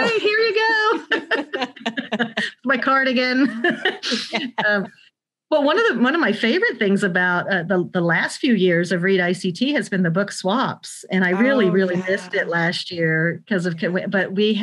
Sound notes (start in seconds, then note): 2.6 both laugh